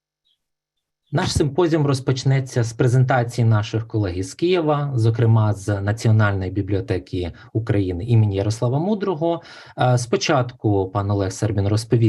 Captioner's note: foreign Language Spoken